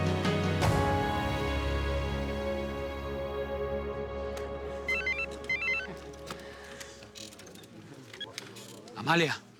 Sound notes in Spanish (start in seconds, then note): 4.9 Suena el celular